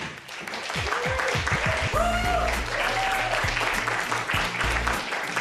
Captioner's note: cheers and applause